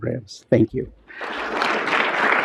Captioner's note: applause